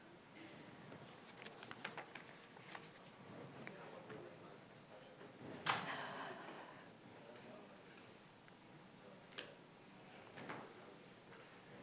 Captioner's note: general chatter